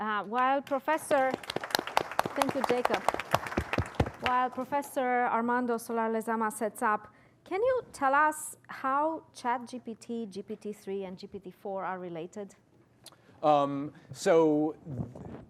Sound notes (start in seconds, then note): 2.4 applause